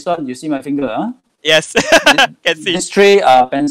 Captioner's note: laughing